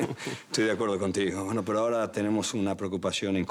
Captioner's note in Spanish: Risas